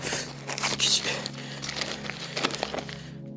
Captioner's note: unfolds newspaper page